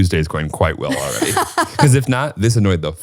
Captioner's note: laughing